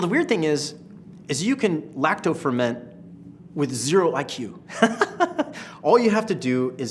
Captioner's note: laughs